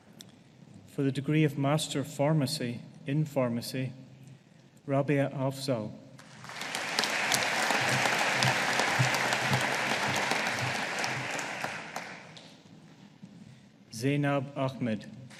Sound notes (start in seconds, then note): 6.2 audience applauding